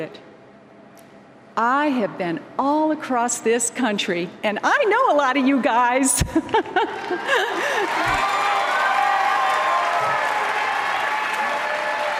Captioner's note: applause